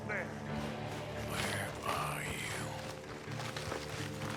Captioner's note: murmurs